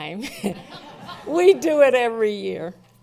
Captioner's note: laughing